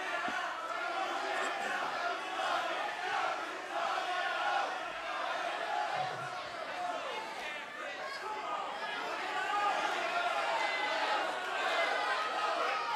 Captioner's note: fans chanting